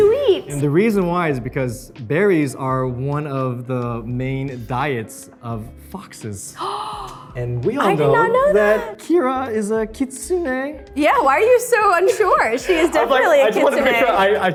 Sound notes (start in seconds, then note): 6.6 Arden gasps